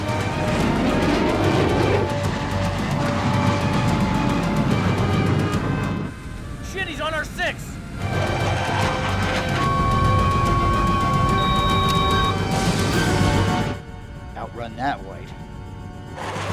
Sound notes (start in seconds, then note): 8.0 loud beeping; 12.6 missile whooshes; 16.1 aircraft whooshes; 16.2 missile whooshes